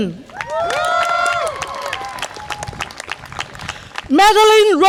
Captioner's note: audience applause and cheer